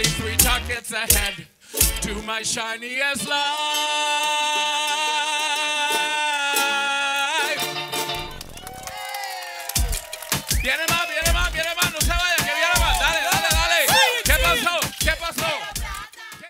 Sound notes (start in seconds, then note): 8.2 applause